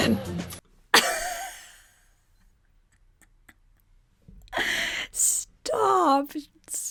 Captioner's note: laughs